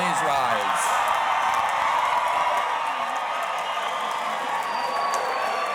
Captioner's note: audience cheering and applauding